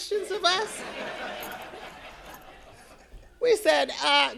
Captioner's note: audience laughing